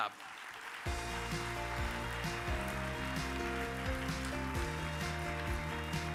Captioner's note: audience applauds; upbeat music